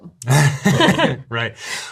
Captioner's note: laughter